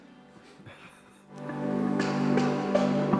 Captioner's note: chuckles; instrumental music